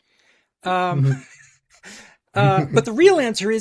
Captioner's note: laughs